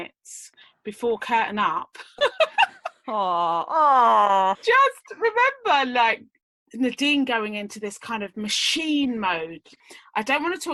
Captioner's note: laughs